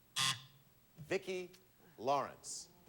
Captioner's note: buzzer sounds